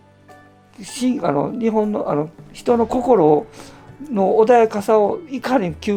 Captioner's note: speaking foreign language